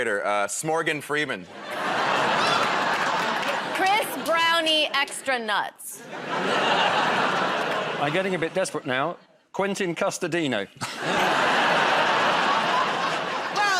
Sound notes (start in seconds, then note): 6.1 audience groans; 10.8 laughter